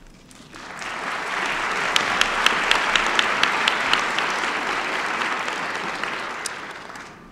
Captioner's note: applause